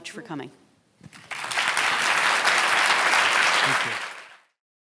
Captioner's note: applause